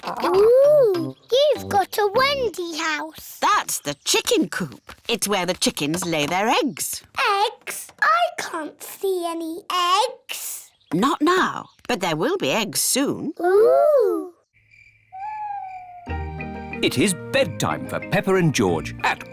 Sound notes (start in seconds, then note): 14.5 crickets chirping